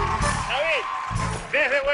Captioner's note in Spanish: Aplausos